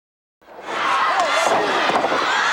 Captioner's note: audience cheering; body thudding